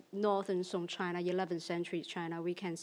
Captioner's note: speaks in foreign language